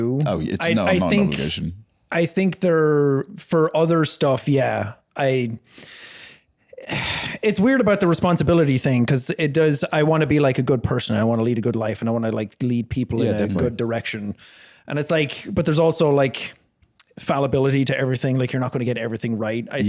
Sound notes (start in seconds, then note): 6.8 sighs